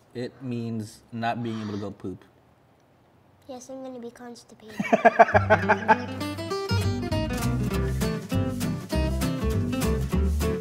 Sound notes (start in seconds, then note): 4.7 laughter; 5.3 upbeat music